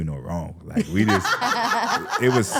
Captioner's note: laughing